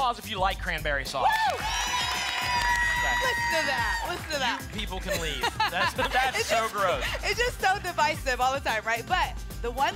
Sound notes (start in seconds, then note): 1.1 applause and cheering